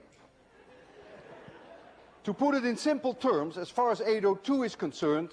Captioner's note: laughter